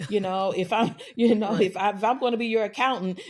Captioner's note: laughter